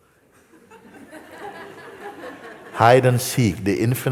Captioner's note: laughter